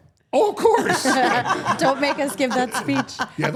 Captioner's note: all laughing